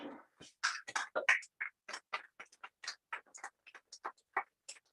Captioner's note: applause